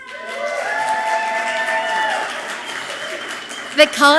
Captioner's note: audience clapping and cheering loudly